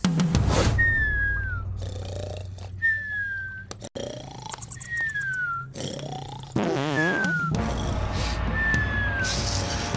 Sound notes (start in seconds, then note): 0.2 snoring; 7.3 sniffing